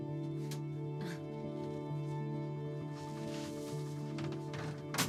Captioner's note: Cassie giggles